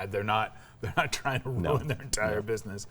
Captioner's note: chuckling